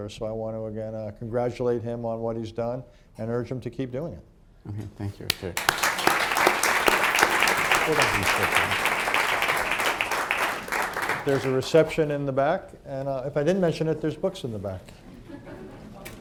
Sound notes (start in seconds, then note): 9.3 applause; 15.0 laughter